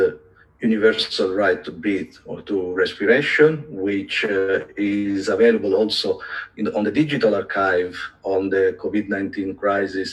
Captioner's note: respiration